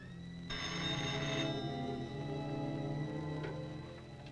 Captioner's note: phone rings